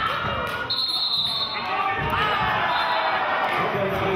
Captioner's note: whistling; yelling